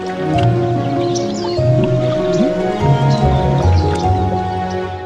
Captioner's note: birds tweeting; gentle music; bubbles popping